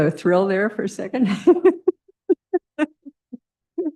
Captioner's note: laughter